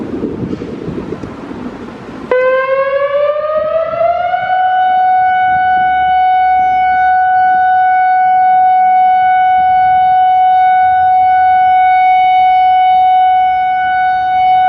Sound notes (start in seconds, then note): 6.2 up/Down Siren sound